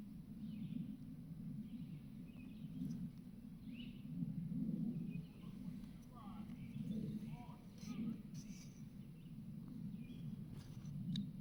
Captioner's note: birds chirping